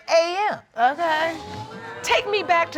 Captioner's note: audience exclaiming